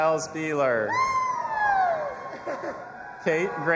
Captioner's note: audience applauding and cheering